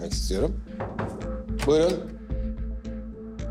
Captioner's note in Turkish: Kapı vuruluyor